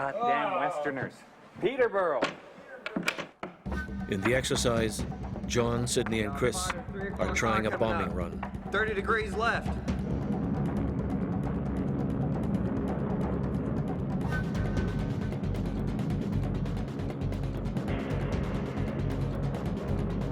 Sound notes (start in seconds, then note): 3.1 voiceover; 10.6 dramatic music